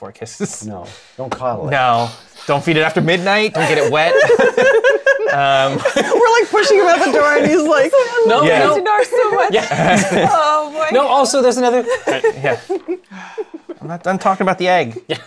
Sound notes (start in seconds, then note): 3.5 laughter; 11.7 laughs